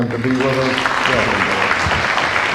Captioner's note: applause